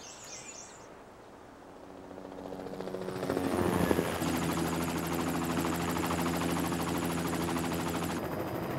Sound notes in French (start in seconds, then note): 1.4 vrombissement d'hélicoptère